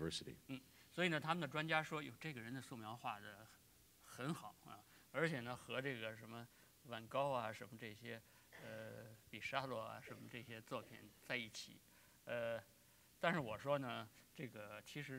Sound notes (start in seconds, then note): 3.6 speaking in Chinese